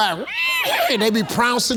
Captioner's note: Steve whinnies